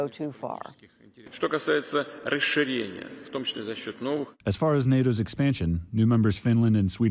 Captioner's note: through translator